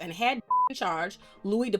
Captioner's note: beep